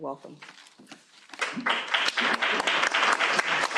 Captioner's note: applause